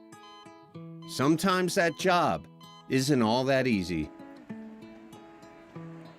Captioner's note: monitor beeps